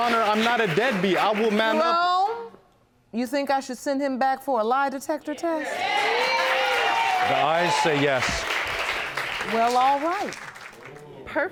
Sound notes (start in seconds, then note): 5.6 audience cheering